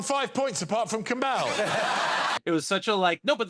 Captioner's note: laughter